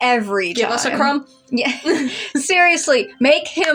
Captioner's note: laugh